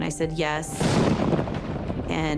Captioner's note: thunder crashes